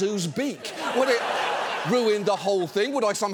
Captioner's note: studio audience laughs